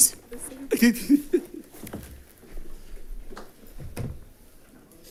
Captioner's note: attendant chuckling